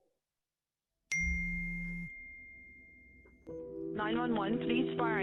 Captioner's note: notification bell dinging